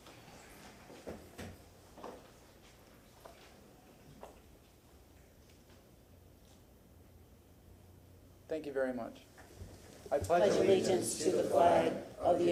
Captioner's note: moment of silence